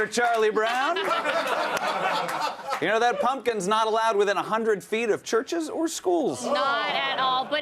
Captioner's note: applause